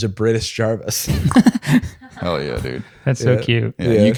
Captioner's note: laughing